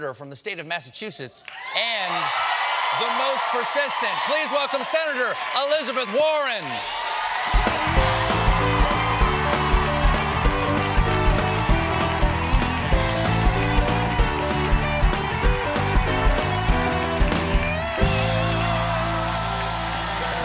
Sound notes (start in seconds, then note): 7.0 band playing; 8.1 cheers and applause